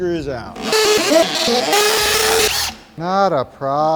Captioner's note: drilling